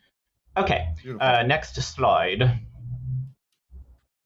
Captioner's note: cool Guy voice